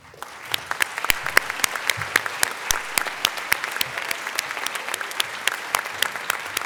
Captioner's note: applause